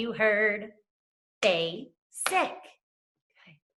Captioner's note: clapping